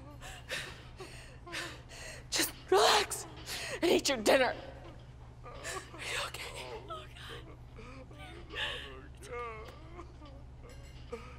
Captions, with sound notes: Just relax and eat your dinner. Are you okay? -(sobbing) No. I'm not. (groom sobbing uncontrollably)